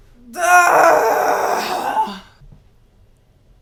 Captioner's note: loud sigh